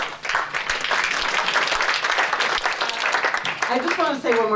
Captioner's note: applause